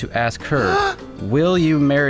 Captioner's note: someone gasps